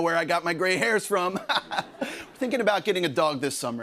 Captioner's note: laughs